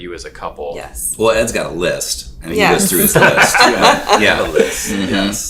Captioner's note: all laughing